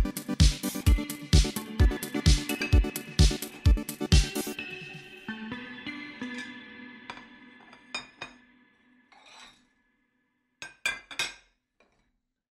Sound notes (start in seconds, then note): 6.3 end music; 6.8 cutlery and plate sounds